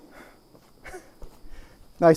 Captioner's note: porter chuckles